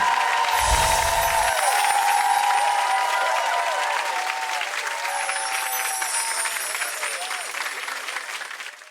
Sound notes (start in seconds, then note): 0.2 crowd cheering; 0.5 screen whooshing; 2.4 logos tinkling